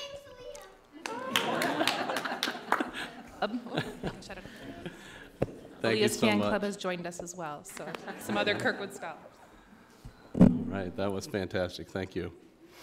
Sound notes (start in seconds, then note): 1.6 everyone chuckling